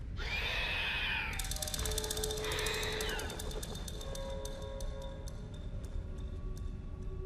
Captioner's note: eerie music; creatures screeching